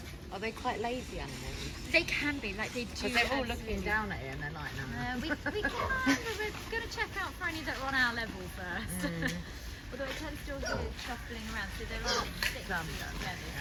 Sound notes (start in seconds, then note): 5.2 laughs; 8.9 chuckles